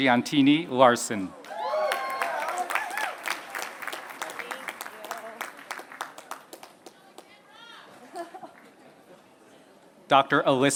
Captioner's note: applause